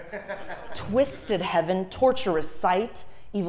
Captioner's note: laugh